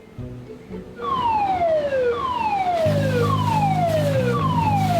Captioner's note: siren wailing